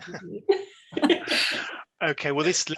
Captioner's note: laughs